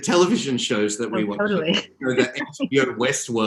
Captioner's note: laughs